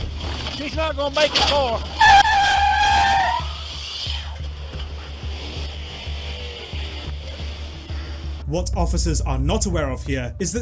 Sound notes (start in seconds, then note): 2.9 tires screeching